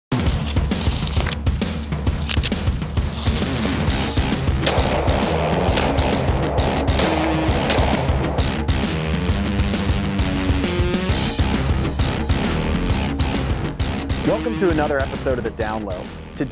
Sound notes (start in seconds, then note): 0.0 dramatic music; 4.5 gun firing